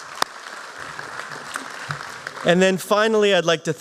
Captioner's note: applause